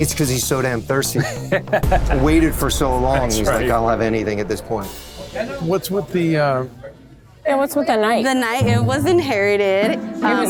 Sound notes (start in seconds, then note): 1.1 laughing